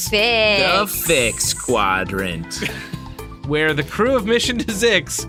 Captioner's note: laughs